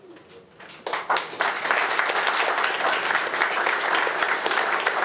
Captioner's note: attendees applauding